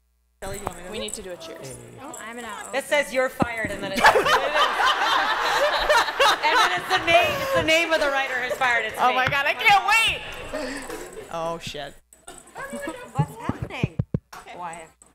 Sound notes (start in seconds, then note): 3.9 laughter